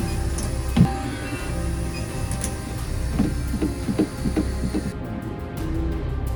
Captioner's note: machine buzzing and pounding